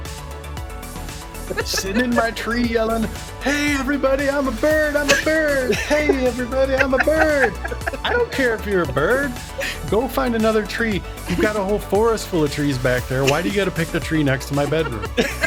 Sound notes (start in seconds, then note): 12.9 laughter